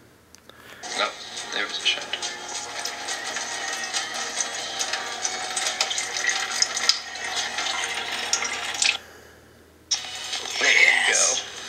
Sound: video playing in mobile

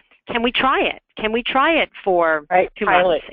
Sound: voiceover

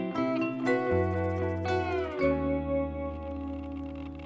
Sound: metal detector whirring

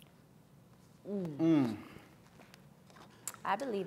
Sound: grunts

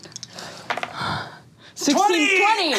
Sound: dice clatters

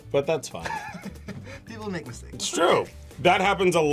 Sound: laughs

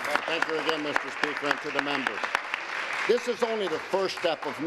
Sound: applause

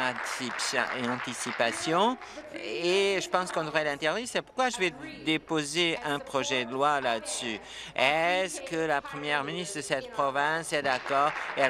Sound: applause

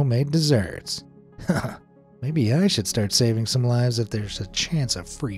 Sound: chuckles

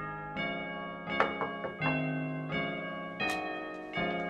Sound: soft knocking

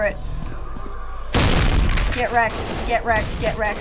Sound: gun blast

